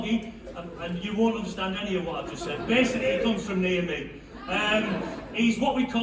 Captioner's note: laughter